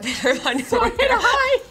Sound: laughing

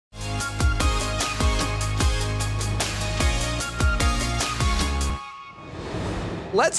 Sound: transition whooshes; upbeat music

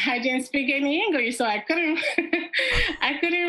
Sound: laughs

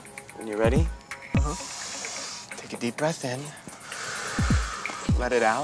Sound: inhales deeply; exhales sharply

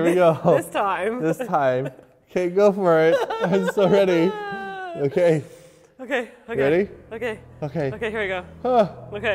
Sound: nervous crying

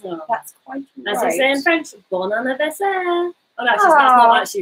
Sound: speaks foreign language

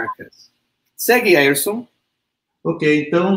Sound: speaks portuguese

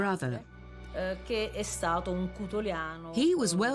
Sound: speaking in Italian

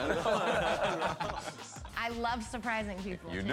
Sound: laughter

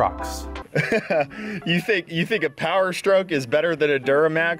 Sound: laughs

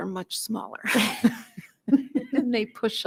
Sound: laughs

